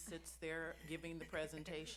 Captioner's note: laughs